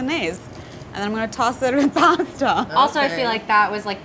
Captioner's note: laughs